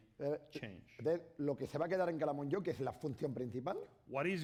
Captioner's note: speaking spanish